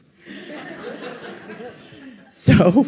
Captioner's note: audience laughs